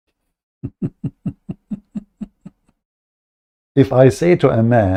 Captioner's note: Ketawa